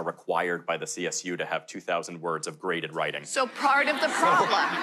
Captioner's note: laughter